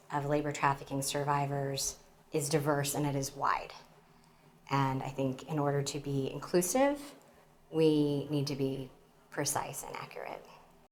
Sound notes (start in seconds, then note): none